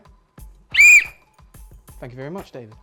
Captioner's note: blows whistle